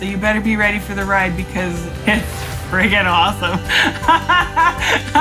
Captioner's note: laughs